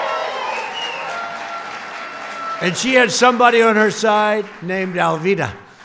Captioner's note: applause